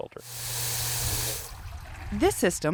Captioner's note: filter hisses